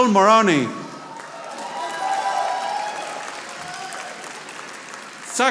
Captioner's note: audience applauding